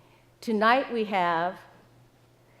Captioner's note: none